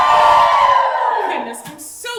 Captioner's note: audience cheer